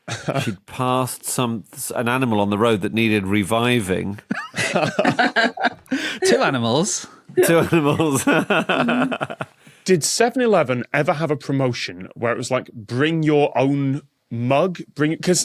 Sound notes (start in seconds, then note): 0.1 chuckles; 4.2 others laughing; 7.3 laughs